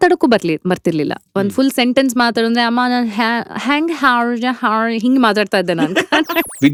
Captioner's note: speaks in foreign accent